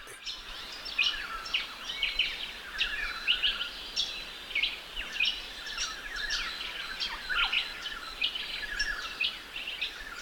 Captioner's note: birds chirps and calls